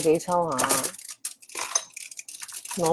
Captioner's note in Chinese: 攞石鏈雜聲…